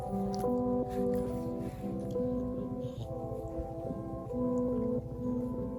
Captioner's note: Ollie shuffles around on the sleeping bag and makes quiet, snuffy noises